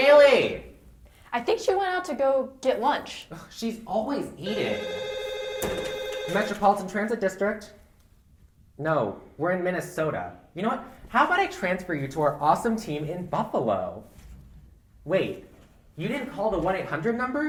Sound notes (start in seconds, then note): 4.4 more phones ringing so Suki picks one up